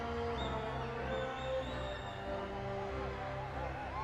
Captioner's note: audience whistles